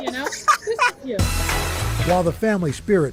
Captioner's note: laughter